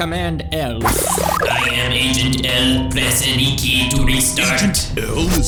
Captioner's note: imitates buzzing sound